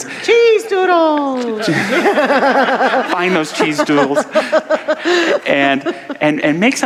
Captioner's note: audience laughter